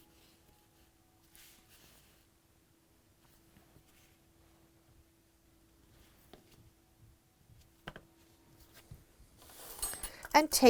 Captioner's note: no significant sound